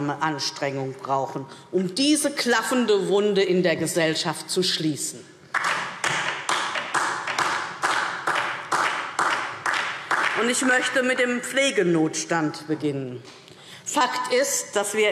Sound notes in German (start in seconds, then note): 5.5 Beifall DIE LINKE